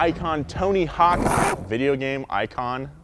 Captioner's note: skateboard scrapes